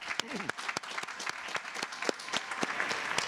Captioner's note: applause